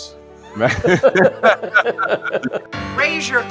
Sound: laughing

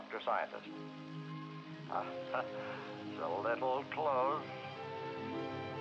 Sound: chuckles

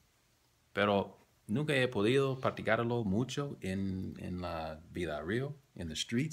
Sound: spanish

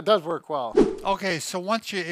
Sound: air swooshing

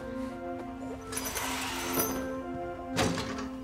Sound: machinery jingling; energetic orchestral music

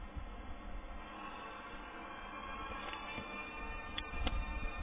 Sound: loud rising note on electronic device

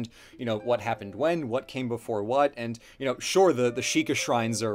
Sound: none

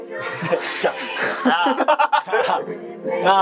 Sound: mimicking

